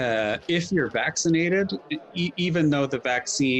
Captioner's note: people chattering